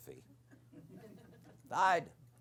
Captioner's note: laughter